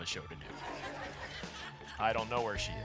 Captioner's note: laughter